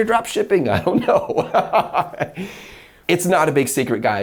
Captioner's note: laughs